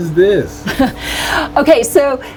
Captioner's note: laughing